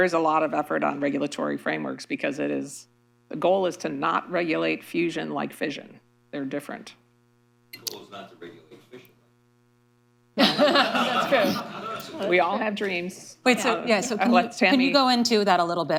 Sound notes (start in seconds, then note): 10.4 laughter